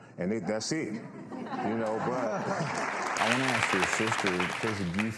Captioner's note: audience laughs